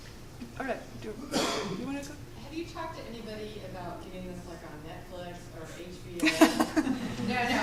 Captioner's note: laughs